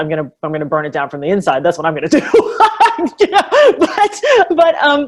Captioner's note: laughs